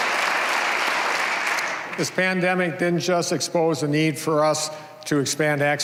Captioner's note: applause